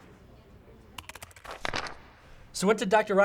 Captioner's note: SFX: typing, pages flipping